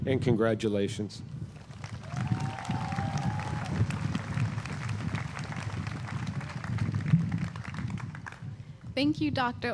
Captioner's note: applause